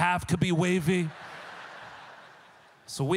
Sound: audience laughter

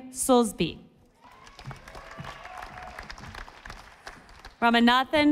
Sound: audience applauding

